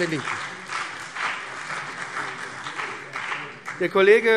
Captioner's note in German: Beifall BÜNDNIS 90/DIE GRÜNEN und CDU